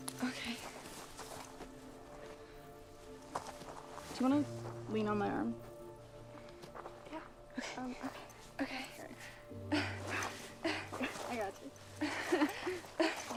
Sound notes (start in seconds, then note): 10.6 Scarlet grunts; 12.0 both chuckling